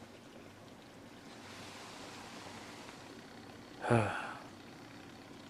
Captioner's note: sigh